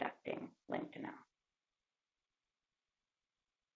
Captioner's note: pause